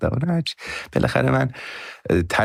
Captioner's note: laughs